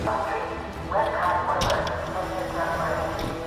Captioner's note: sound of dispatcher calls